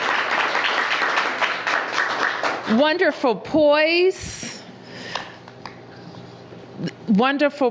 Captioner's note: applause